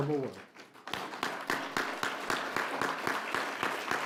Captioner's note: applause